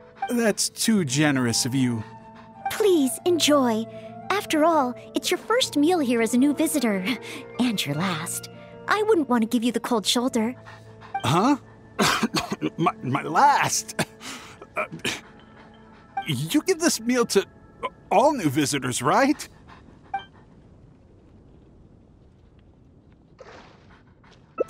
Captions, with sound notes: That's too generous of you... Please, enjoy. After all, it's your first meal here as a new visitor, and your last. I wouldn't want to give you the cold shoulder. Huh? *coughing* M—My last!? *choking* ...You give this meal to... all new visitors, right? It's just Noelle's way of showing hospitality.